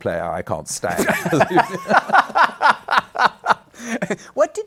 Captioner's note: laughter